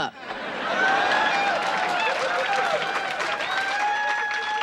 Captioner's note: audience cheering